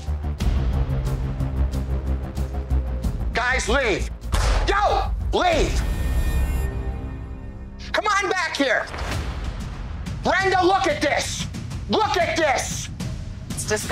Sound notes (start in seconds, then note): 0.3 tense foreboding music; 4.5 Jon slams counter